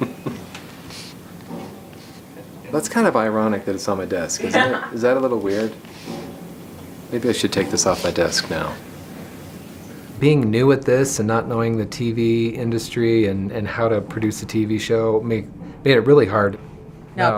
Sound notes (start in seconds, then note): 0.0 laughing; 4.4 woman laughing